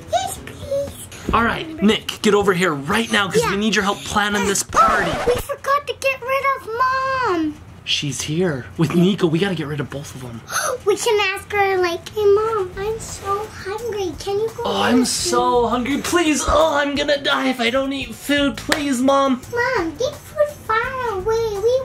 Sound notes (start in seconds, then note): 4.3 record scratches